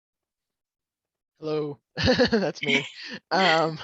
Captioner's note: laughs